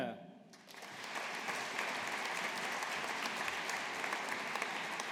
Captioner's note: audience applauding